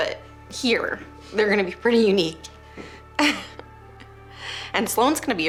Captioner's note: laughs